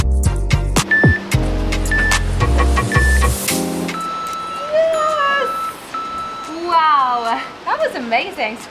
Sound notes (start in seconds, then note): 0.9 timer beeping; 1.7 waves whooshing